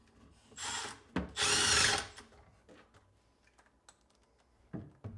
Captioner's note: tool whirring